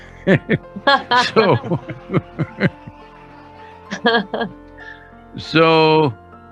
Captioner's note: both laugh